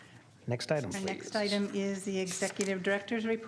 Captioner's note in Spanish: coro de sí